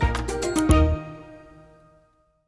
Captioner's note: mouse click